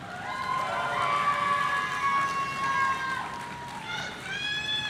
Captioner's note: audience cheering